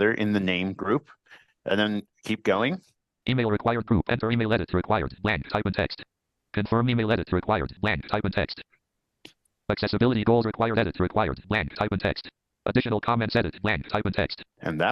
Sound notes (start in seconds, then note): 3.2 computer generated voice